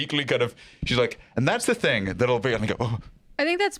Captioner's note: shudders